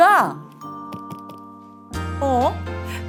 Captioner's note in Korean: 똑 똑 똑